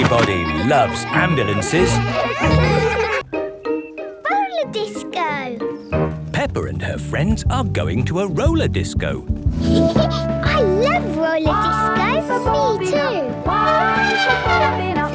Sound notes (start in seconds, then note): 9.6 Peppa laughing; 13.5 trumpeting